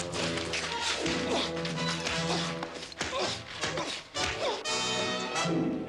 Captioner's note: grunting